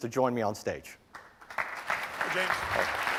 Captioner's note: applause